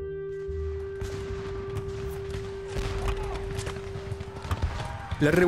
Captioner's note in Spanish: Explosiones, disparos, gritos